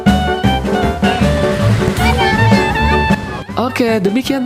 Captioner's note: applause